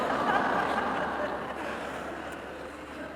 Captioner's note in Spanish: Risas